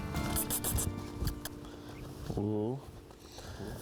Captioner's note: squeaky kisses